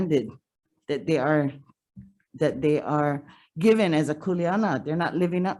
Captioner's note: speaks foreign language